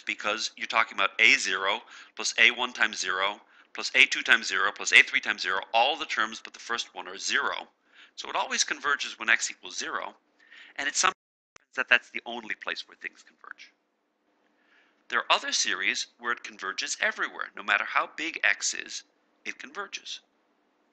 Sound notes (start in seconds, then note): 11.2 audio cuts off